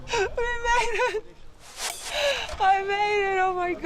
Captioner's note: laughs